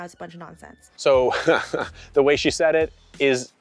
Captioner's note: laughs